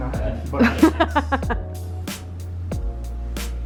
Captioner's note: laughs